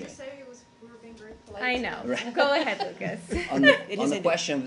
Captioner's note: laughter